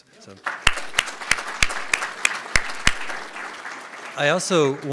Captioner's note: audience applauds